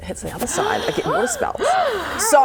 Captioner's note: gasp